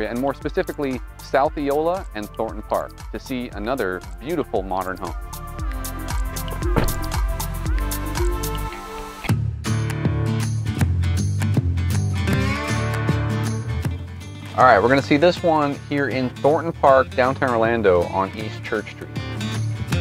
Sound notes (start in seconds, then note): 6.6 car door slams; 9.6 cool blues music